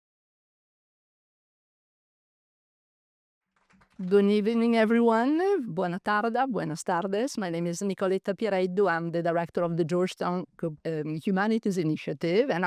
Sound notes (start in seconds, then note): 5.7 speaks in foreign language